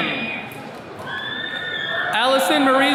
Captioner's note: attendees cheering